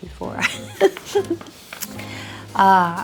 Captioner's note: Priscilla laughs